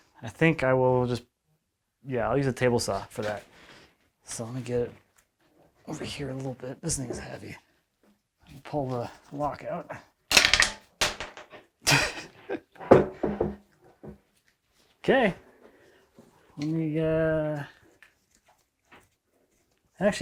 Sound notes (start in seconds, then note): 10.6 thump; 11.8 chuckles